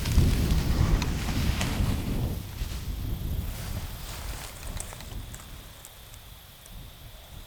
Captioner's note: wind blowing